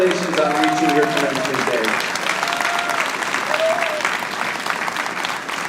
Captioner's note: audience applauding